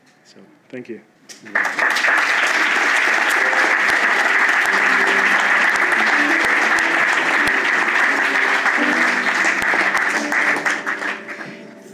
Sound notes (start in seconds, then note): 3.1 applause and music